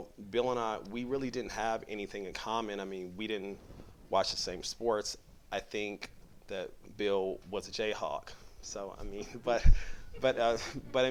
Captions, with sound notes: Bill and I, we really didn't have anything in common, we didn't watch the same sports, I think that Bill was a Jayhawk (laughter)